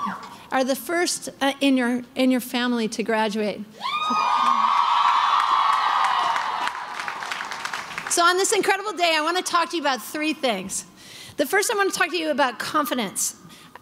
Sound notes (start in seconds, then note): 3.8 crowd cheering